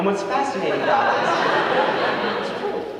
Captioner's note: audience laughing